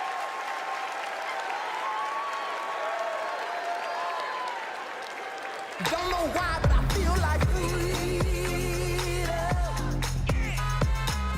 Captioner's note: cheers and applause